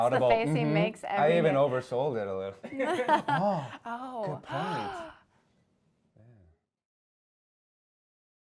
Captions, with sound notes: That's the face he makes every day. I even oversold it a little. Oh, good point! (gasp)